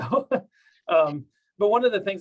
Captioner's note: laughs